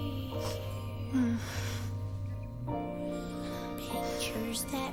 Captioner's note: moans